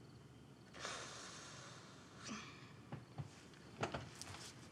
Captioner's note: Tania exhales deeply